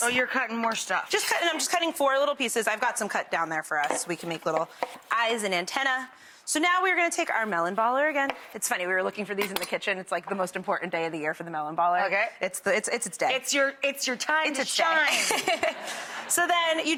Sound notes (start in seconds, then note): 15.0 giggling; 15.1 audience laughing